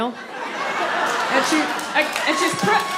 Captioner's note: audience laughs